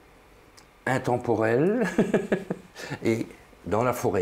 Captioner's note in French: rire